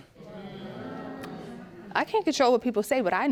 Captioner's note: audience reacting